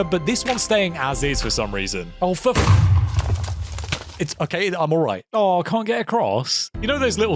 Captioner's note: explosion